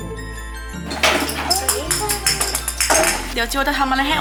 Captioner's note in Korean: 기분이 좋아서 콧노래까지 나오는